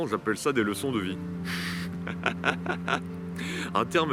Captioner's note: laughs